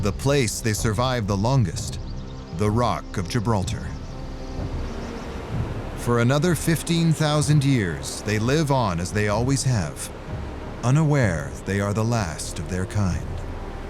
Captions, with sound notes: The place they survive the longest: the rock of Gibraltar. [birds chirping] For another 15,000 years, they live on as they always have, unaware they are the last of their kind.